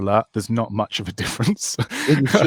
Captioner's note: laughs